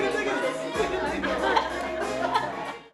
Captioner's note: group laughing